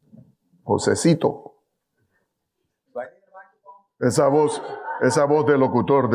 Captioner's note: speaking in foreign language